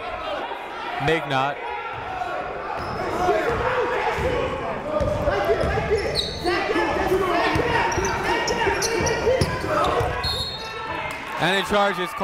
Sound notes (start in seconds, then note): 2.7 shouting; 10.2 whistle blowing